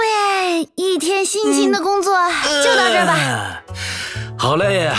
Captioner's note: yawn